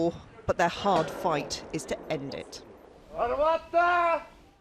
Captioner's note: gunfire